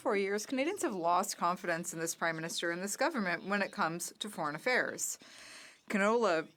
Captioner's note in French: voix de l'interprète